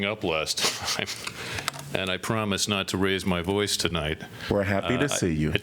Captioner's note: laughter